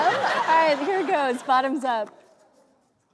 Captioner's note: audience laughs